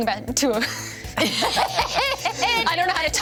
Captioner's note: everyone laughs